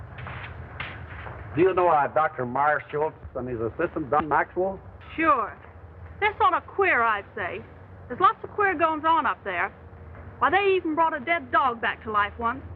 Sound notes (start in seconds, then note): none